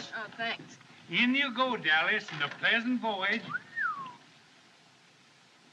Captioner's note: man Whistles